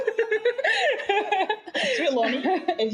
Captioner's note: laughs